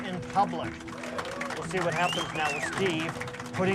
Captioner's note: crowd whooping, applauding